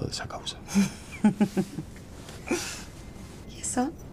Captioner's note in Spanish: Ríe